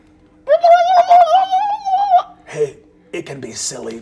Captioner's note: burbles